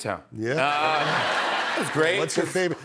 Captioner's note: laughter